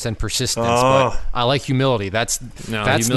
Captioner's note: groans